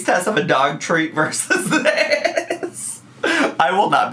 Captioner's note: laughs